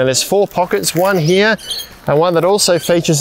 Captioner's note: birds chirping